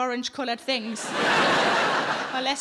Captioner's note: audience laughing